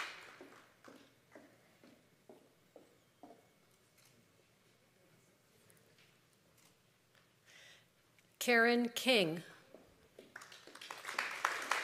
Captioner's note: applause